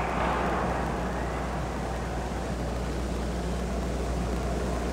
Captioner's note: whistle blows